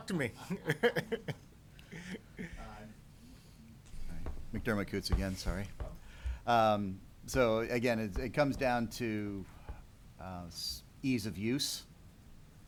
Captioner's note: laughter